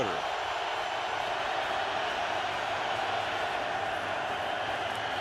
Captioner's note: cheering